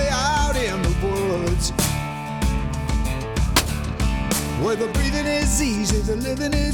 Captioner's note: gun shot